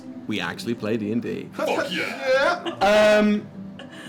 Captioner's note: laughter